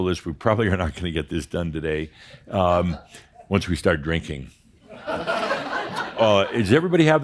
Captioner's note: some laughter